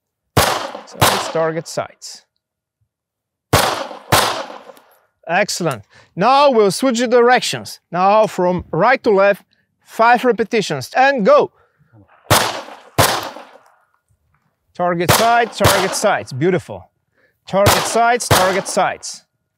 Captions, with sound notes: (gunfire popping) Target, sights. (gunfire popping) Excellent. Now we'll switch the directions. Now from right to left, five repetitions, and go. (gunfire popping) Target, sights, target, sights. Beautiful. Target, sights, target, sights.